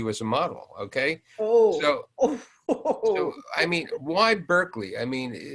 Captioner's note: laughs